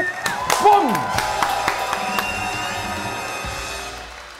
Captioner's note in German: Jubel, Pfiffe, fetzige Klänge